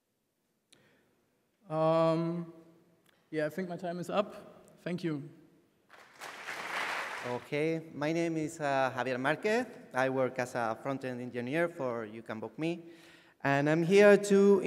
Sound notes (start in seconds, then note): 5.9 applause